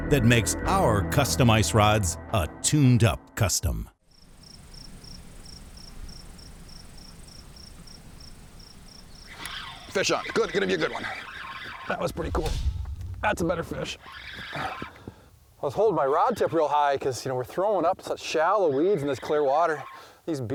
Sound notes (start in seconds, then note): 4.0 crickets chirping